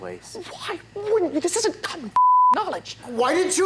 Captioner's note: beep